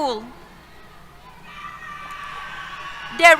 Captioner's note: cheers